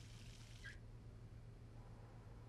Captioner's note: water stops